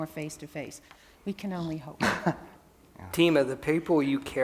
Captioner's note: laughs